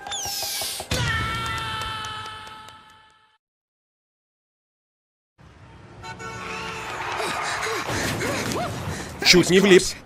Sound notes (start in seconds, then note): 0.9 screaming; 5.5 horn honking, tires screeching; 7.8 crashing